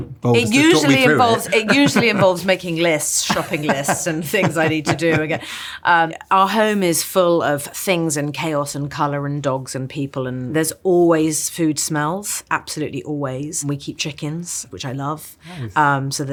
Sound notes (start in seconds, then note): 3.5 laughing